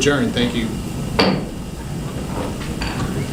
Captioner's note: gavel